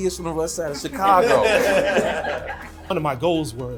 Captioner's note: crowd laughing